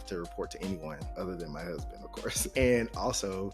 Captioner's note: chuckling